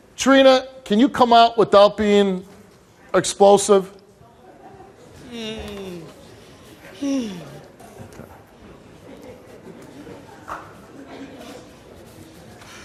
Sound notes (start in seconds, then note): 5.2 sighs